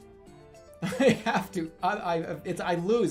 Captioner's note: bursts out laughing